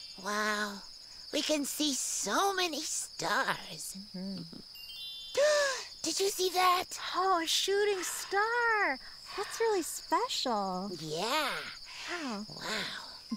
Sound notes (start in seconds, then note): 4.7 chimes tinkling